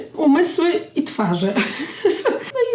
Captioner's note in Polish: śmiech